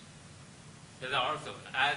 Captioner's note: speaks Chinese